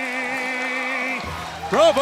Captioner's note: crowd cheering